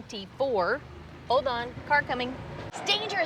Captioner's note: car engine revving